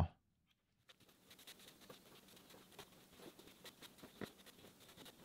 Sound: rubber grinding

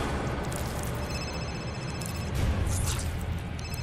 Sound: phone ringing

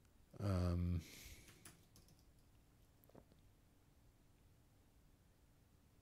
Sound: silence

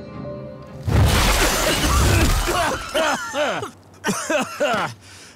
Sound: coughing

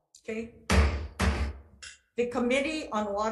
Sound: gavel banging

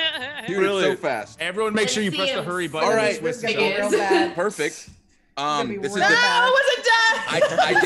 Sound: laugh

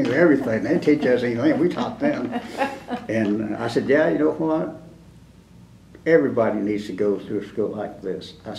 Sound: laughter

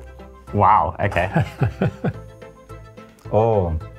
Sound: laughter

